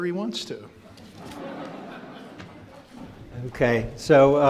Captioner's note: crowd laughs